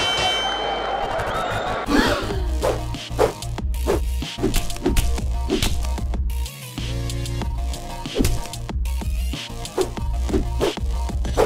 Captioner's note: fight bell dings; crowd gasps